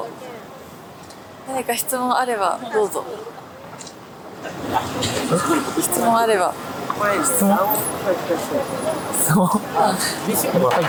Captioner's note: laughs